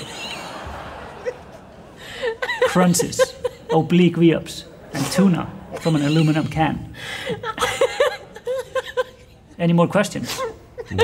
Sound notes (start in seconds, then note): 0.0 audience laughter, plus laughing more than usual; 7.9 still laughing